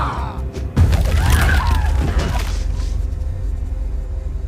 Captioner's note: thudding